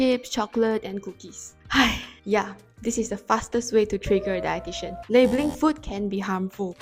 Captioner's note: sigh